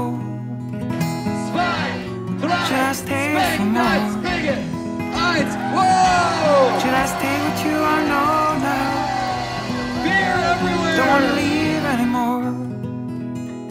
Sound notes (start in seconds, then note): 1.4 crowd chanting; 5.0 people cheering; 12.6 upbeat music in background